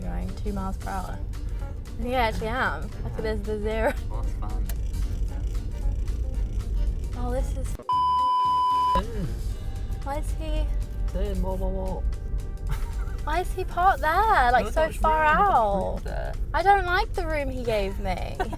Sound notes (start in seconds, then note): 7.8 beep